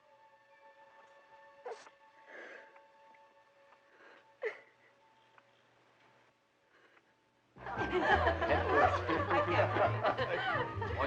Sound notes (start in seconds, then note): 1.9 crying; 7.6 laughing, Chattering